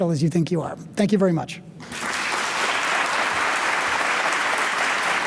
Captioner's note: audience applauding